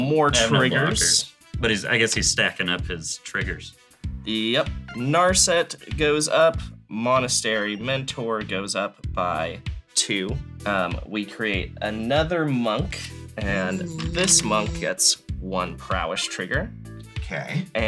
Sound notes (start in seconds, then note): 15.7 bumblebee metal noise